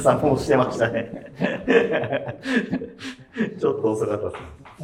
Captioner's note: laughing